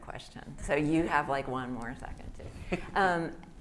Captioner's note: laughs